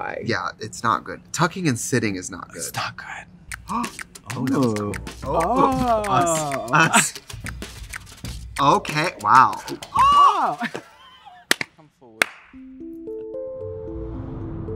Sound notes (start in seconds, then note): 3.6 Trixie gasps; 9.6 both laugh; 9.9 both squeal